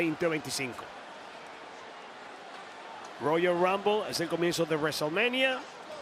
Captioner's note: applause